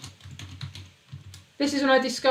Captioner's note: keyboard clicking